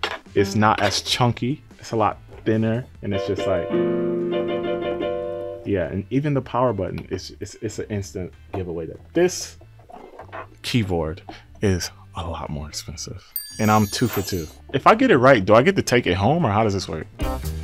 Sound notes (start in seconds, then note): 3.1 upbeat keyboard music; 13.3 text tinkling; 17.4 upbeat jazz music